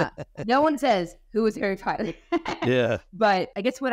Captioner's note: laughing; laughing